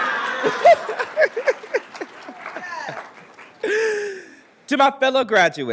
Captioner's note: laughs